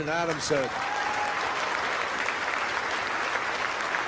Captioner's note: crowd applauding